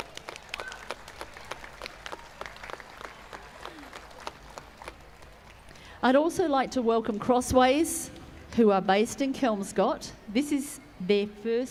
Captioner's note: applause